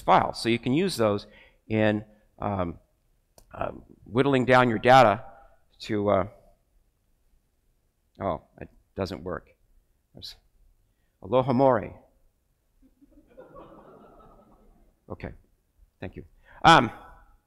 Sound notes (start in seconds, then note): 12.9 crowd laughs